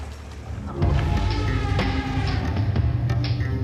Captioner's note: elephant trumpets